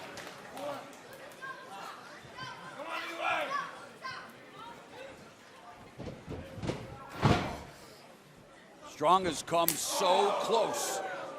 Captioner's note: crowd cheering